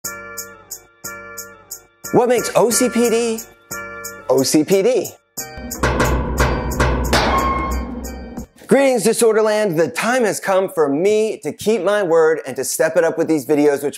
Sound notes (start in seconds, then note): 0.1 upbeat music; 5.6 steel knocking